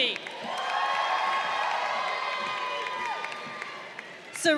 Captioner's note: crowd cheering